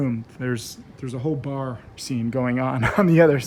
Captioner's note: laughs